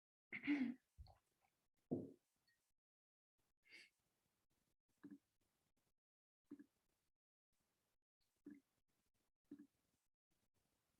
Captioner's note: clears throat